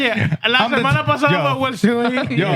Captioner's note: non-english Speech